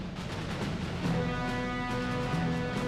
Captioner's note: none